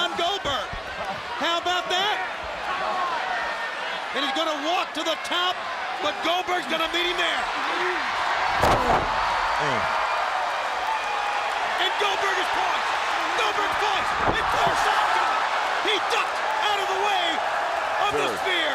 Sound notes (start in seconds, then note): 10.1 crowd cheering; 16.7 crowd cheering